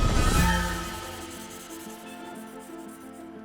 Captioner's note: scratching